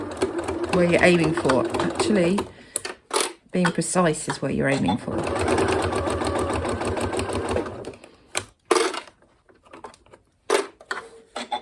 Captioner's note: sewing machine noise